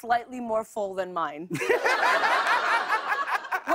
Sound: laughter

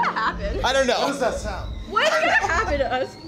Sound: steam whistling

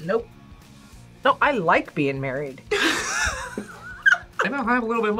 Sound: laughs

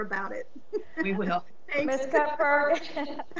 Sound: laughs; laughs

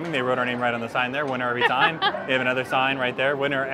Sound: laughs

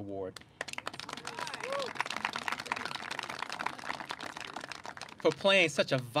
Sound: clapping

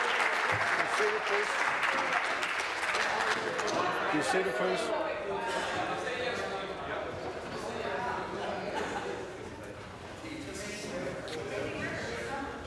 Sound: some Applause

